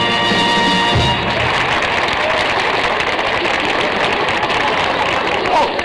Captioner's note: applause